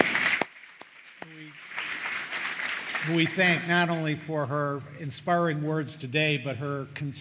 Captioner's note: applause